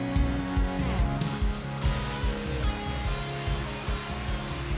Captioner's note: water rushing